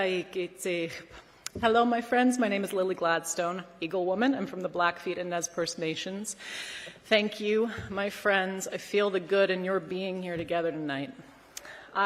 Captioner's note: speaking non-english language